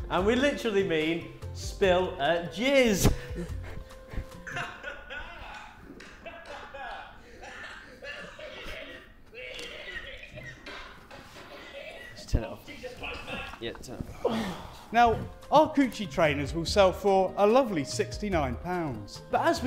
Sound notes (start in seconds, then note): 4.6 recorded laughter on the laptop; 9.6 coughing on laptop